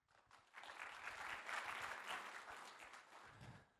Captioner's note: applause